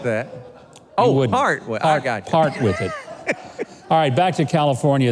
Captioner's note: laughs